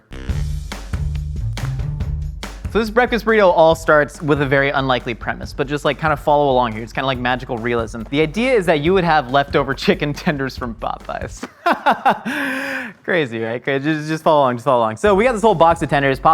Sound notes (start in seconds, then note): 0.3 upbeat music; 11.4 laughs